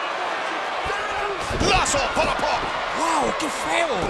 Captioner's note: applause